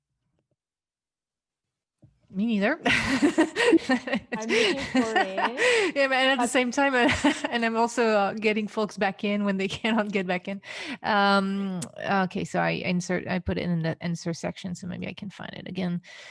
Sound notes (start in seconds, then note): 3.0 laughs